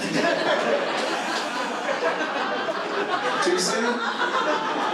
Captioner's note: audience laughs